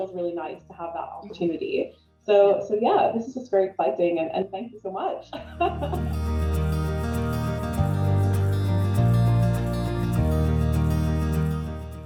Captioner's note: laughs